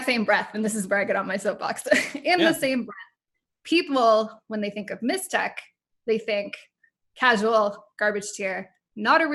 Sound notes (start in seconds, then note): 2.4 laughs